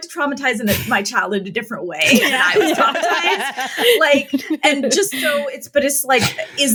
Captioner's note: laughter